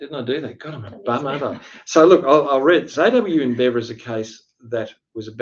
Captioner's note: laughs